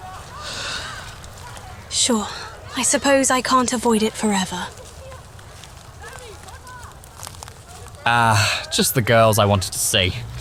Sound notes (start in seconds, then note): 0.4 yawn; 6.0 footsteps approaching